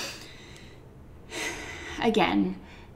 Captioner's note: exhales deeply